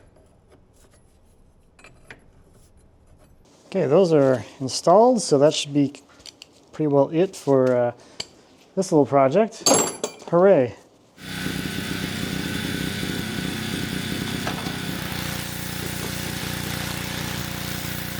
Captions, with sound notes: Okay, those are installed, so that should be pretty well it for this little project. Hooray. (engine rumbling) (spray hissing)